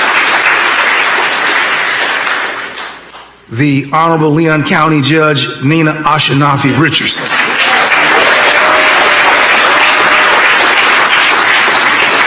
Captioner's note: applause